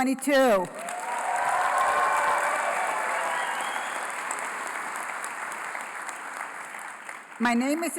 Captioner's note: applause